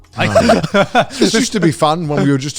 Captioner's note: both laughing